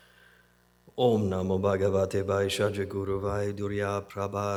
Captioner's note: non-english speech